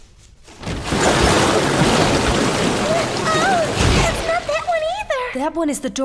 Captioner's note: water gushing